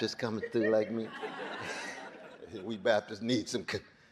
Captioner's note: audience laughing